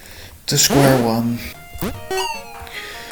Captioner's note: sighing